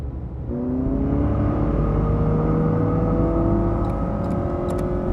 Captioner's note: engine revving